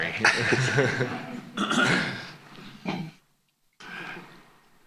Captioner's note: laughter